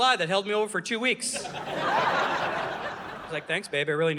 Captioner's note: audience laughing